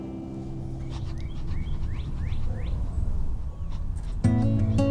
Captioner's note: birds chirping; slow soft music